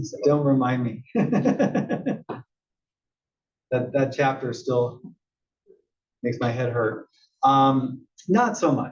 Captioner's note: laugh